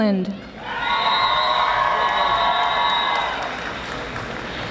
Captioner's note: audience applauding